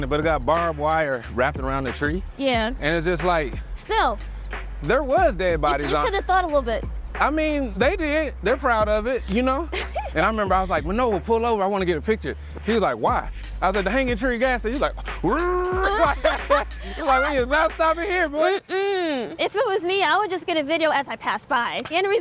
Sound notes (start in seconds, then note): 16.0 imitates driving sounds; 16.9 boh laugh